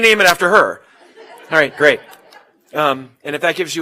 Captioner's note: laugh